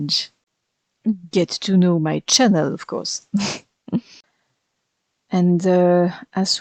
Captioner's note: laugh